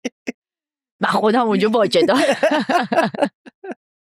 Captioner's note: laughs